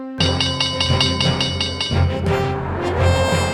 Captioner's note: bell ringing